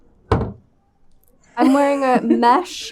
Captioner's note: dull thudding